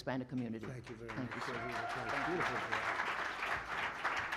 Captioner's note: applause